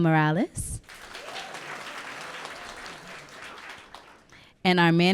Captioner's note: audience clapping and cheering